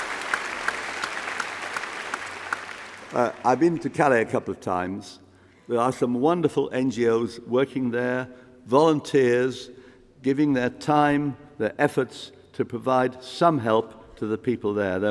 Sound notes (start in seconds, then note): 4.9 applause